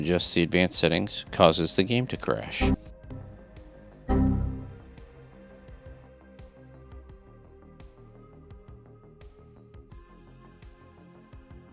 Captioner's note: Windows XP - error noise